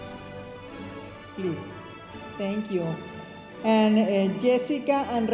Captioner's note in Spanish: hablando en inglés